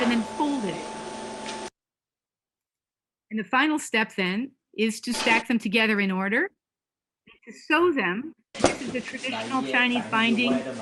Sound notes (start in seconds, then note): 8.8 Chinese spoken in background Of video